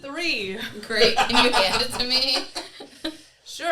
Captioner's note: cackles